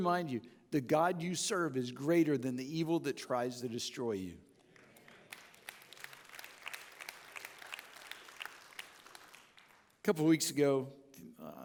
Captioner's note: audience clapping